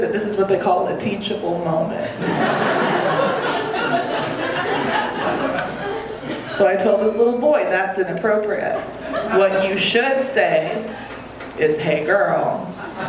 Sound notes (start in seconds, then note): 2.1 audience laughing